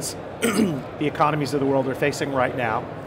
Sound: clears throat

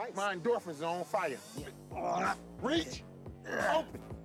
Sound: grunting

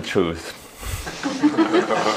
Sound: laughter

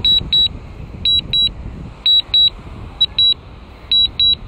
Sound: drone beeps

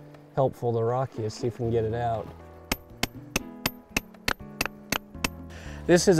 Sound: hammering

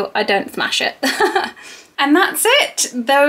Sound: laughs

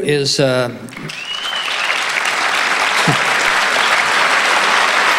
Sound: audience applauding

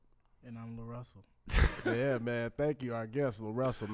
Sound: laughs

